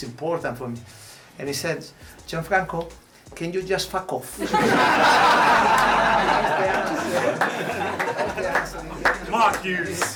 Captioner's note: laughter